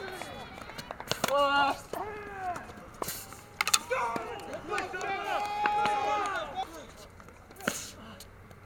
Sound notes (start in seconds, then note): 5.2 audience applauses